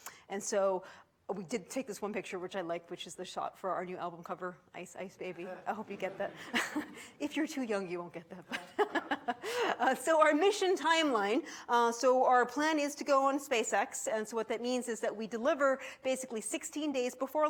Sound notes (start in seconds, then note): 5.4 audience chuckles; 8.4 laughs